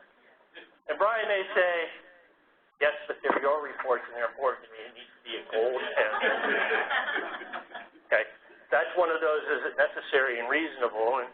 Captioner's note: laugh